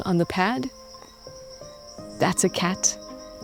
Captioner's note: gentle music; insects chittering